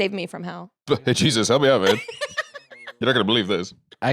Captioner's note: laughs